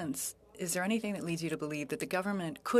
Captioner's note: speaking French